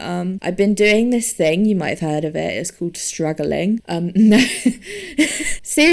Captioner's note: wheezes